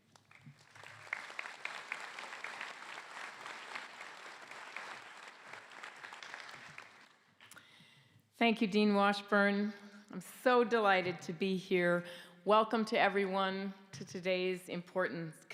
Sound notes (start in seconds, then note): 8.8 applause